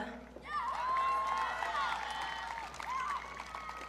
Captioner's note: audience cheering